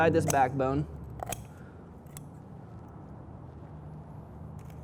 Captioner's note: shears snipping